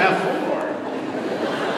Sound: laughter

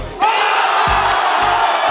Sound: crowd

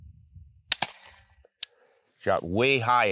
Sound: shot fires

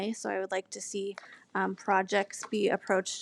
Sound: none

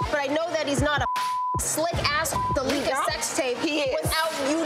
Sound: beep

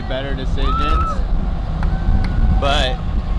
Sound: spectator cheering

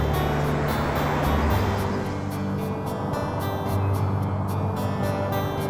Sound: engine whooshing; gentle music

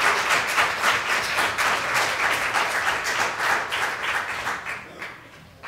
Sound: applause

